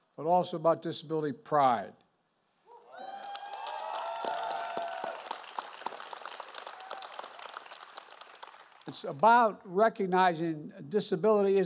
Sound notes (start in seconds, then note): 3.0 applause